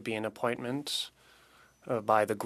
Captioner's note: speaking French